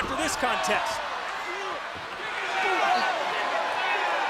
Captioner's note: crowd yelling